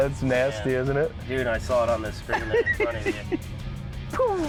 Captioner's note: engine roars